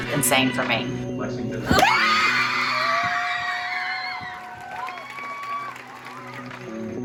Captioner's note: cheering